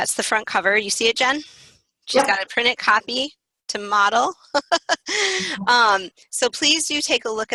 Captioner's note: laughing